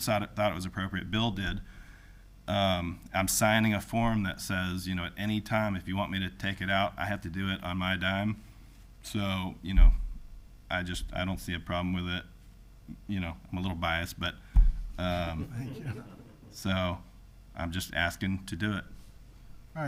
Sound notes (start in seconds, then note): 15.1 people chuckling